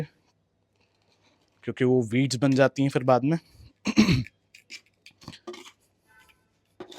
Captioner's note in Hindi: गला साफ़ करने की आवाज़